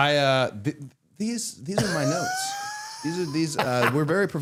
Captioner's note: Matt laughing